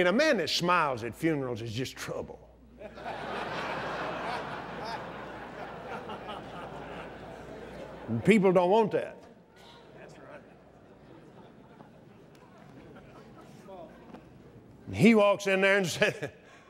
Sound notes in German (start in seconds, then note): 4.7 lacht